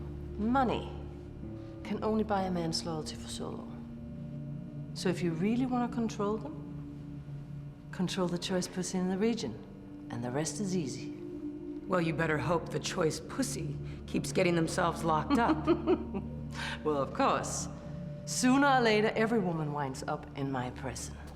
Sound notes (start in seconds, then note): 15.2 laughs